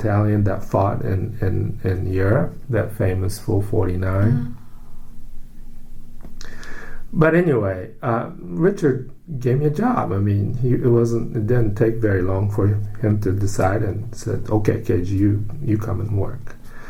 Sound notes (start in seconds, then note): 6.4 takes breath